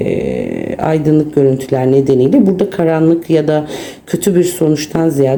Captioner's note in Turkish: homurdanır